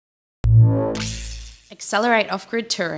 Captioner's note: graphics warbling